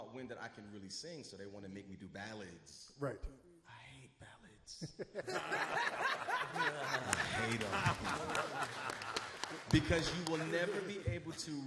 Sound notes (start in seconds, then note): 4.9 all laugh; 5.2 claps